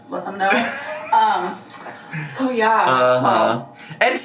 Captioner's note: laughs